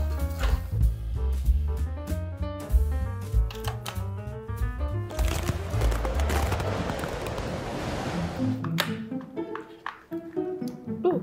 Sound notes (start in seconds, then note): 1.4 lively music; 5.0 ice crackling; 5.6 wind swirling; 8.2 quirky music